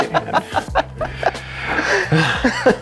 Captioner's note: laughing